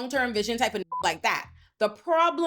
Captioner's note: beep